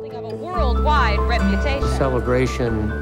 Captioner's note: ambient sound of news anchors